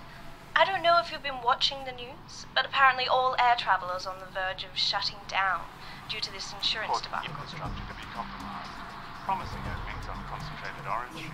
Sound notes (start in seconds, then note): 6.7 TV news comes on